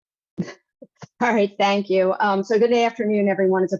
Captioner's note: laughs